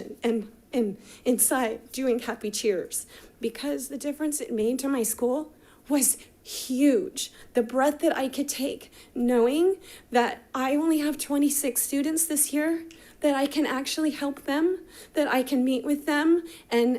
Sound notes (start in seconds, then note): none